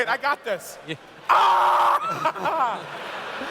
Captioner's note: screams